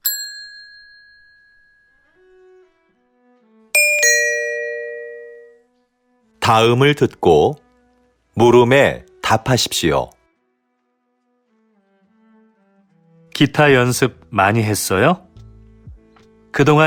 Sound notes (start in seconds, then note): 6.3 Korean audio